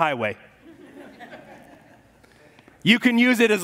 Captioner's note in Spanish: congregación se ríe